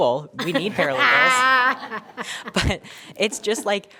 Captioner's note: board members laughing